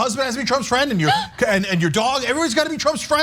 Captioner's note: laugh